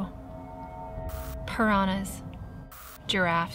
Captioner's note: static crackles